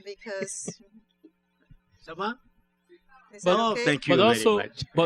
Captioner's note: laughs; speaking french